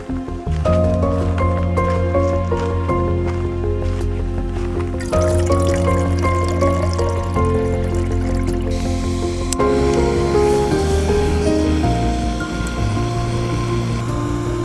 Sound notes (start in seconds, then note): 0.5 footsteps on gravel; 4.8 water sound; 8.7 gas flowing and being ignited